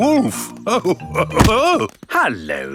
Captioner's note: chuckles